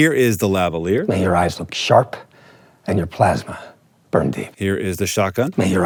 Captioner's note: movie dialogue plays